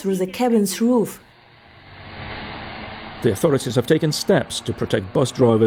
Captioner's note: bus engine